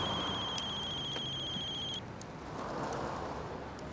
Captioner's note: phone ringing